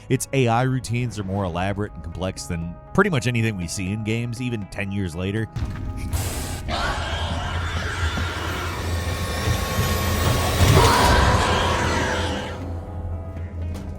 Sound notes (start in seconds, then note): 5.5 suspenseful music; 6.6 alien screeches